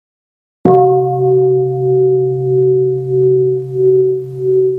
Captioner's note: bell